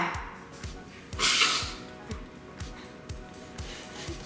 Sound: aerosol sprays

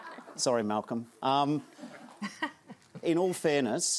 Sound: laughter; laughter

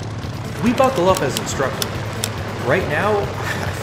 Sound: seatbelts buckling

